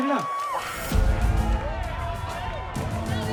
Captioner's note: loud commotion